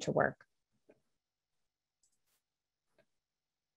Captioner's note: silence